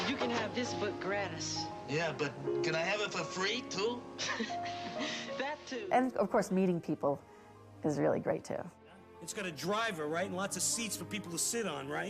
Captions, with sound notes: Yeah, but can I have it for free too? (CHUCKLES) That, too. And of course, meeting people is really great too. It's got a driver, right? And lots of seats for people to sit on, right?